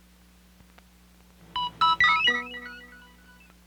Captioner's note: Electronic audio effects